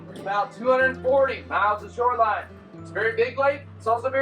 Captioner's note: none